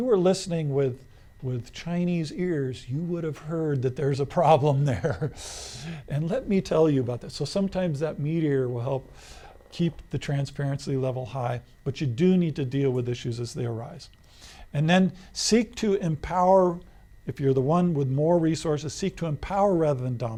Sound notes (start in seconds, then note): 4.8 laughs